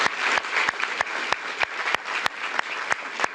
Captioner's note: applause